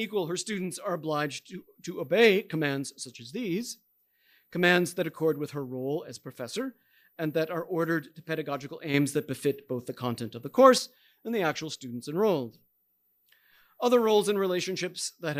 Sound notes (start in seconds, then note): none